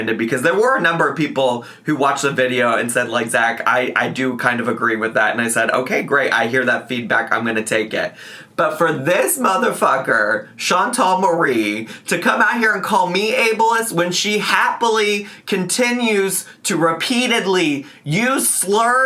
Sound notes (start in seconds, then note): none